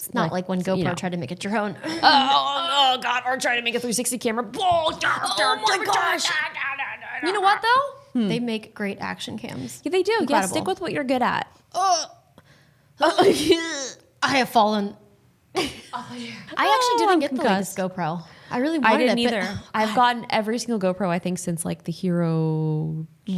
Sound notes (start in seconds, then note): 13.1 both choking; 15.7 laughing